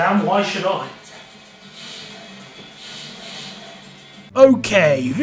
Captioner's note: more Sonic noises